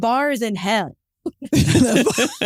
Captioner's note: laughs